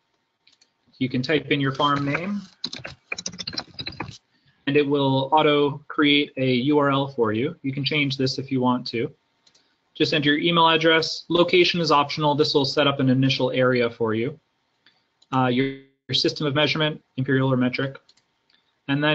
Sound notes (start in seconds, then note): 3.1 keyboard typing